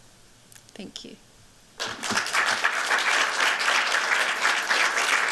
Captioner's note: applause